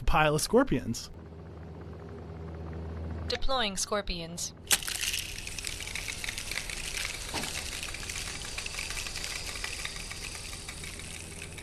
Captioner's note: “deploying scorpions” + scorpion sound